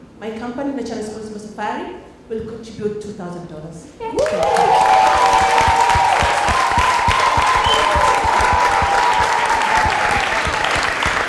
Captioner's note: cheers and Applause